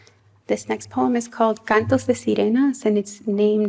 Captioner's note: non-english speech